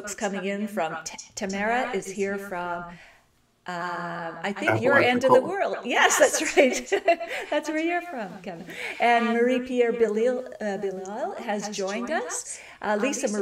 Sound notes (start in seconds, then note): 4.6 laughs